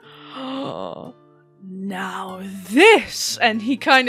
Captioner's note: gasps